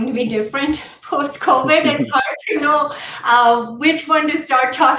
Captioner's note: laughter